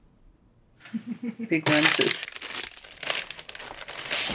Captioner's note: laughs